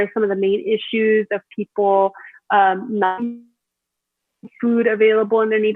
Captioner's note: audio distorts